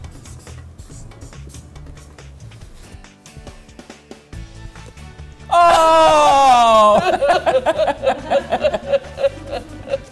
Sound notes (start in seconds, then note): 5.5 groans; 7.1 imitating crying